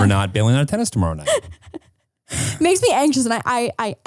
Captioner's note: laughing